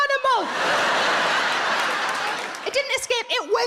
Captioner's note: audience laughing